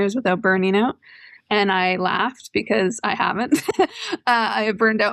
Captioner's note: laughter